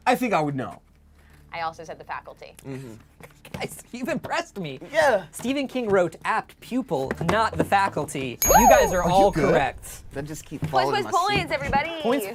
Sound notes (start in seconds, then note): 8.4 bell dings